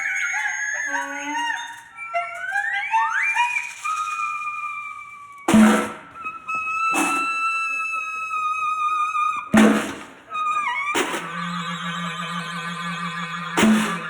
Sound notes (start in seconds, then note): 5.5 bucket banging; 8.3 people laughing